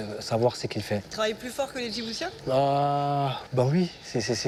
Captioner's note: interviewer speaking foreign language